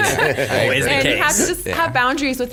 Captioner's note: everyone laughs